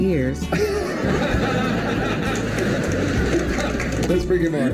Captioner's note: audience laughter